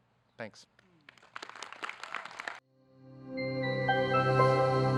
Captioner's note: audience clapping